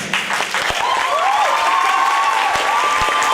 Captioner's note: applause